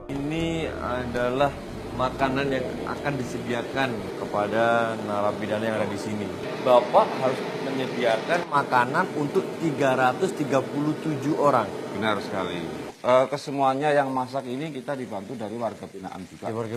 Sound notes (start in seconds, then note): 3.5 people chattering indistinctly